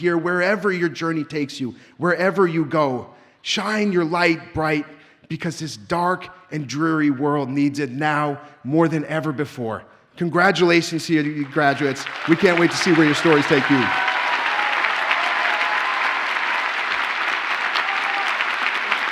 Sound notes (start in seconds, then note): 14.3 audience cheers and applauds